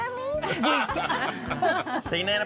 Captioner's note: everyone laughs